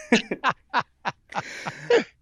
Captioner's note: laughter